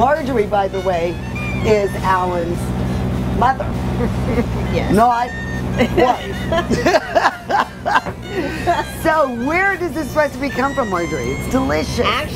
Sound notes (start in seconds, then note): 3.8 laughs; 6.7 both laugh